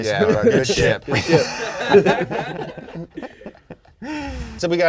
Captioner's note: all laughing; air whooshing